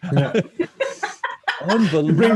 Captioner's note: laughs